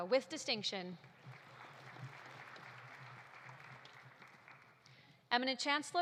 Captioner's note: audience applauding